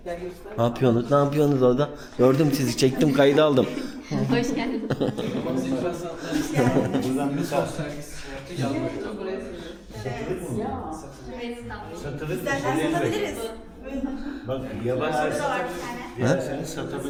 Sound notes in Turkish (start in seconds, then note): 6.0 kahkaha